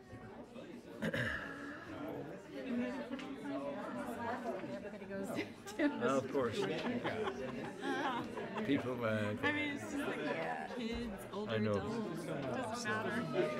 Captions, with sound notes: (throat clears) - Of course. - I mean, kids, older adults, it doesn't matter.